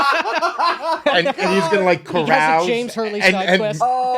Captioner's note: laughing